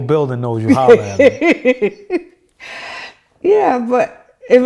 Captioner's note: laughing